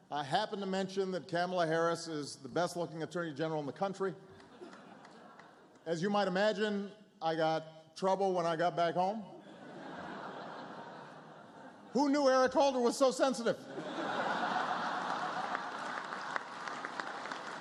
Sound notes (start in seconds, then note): 5.4 laughter; 16.6 laughter, applause